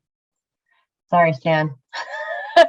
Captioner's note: laughs